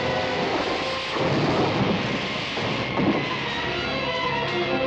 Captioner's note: truck thudding